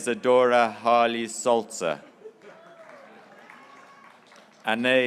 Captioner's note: graduates cheering